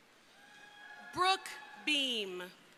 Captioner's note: crowd cheering